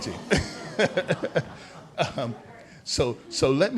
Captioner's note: laughter